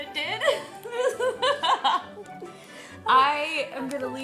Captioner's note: both laughing